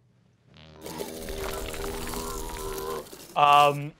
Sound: groaning; stone scraping

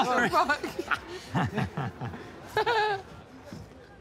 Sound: laughing

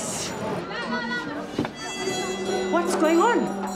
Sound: loud shouting

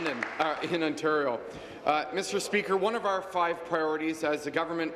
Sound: applause

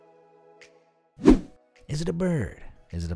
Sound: bright music; air whooshing

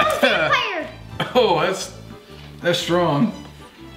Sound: coughing

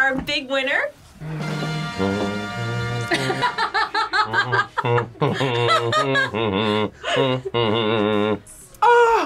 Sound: hums; laughs

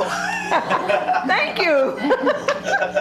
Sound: laughing

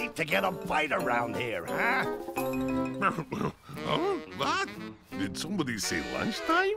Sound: giggling

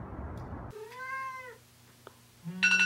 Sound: cat meowing

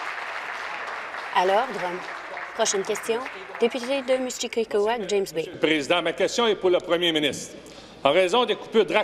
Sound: applause

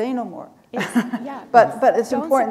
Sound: chuckle

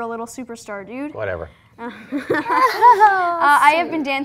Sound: light laughing

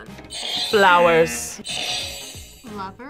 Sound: buzzer rings; buzzer

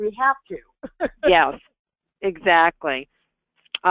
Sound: voiceover

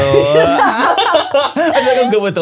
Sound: everyone laughs

